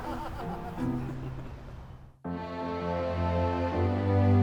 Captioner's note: photographer laughing